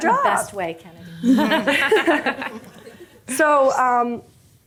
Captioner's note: group laughing